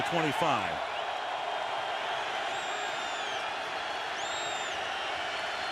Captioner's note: crowd cheering